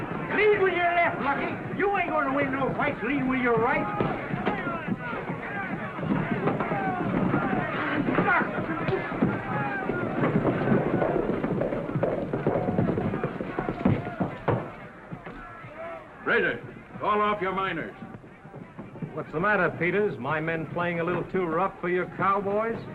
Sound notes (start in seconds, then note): 6.3 sound of fight - fuss